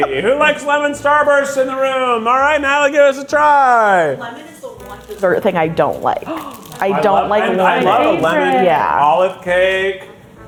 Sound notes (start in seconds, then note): 6.0 gasping